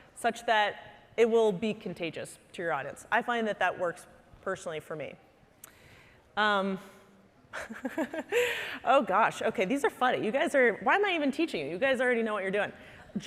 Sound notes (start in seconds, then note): 7.4 laughing